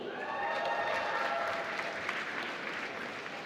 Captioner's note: applause